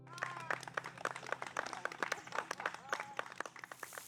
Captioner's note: applause